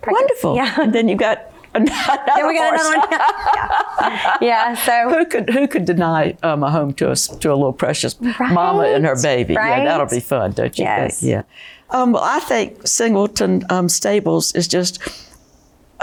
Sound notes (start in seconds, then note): 1.8 laughing